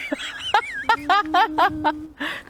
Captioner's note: laughter